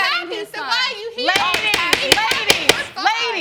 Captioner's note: gavel pounding